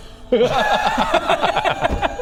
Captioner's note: unsympathetic laughter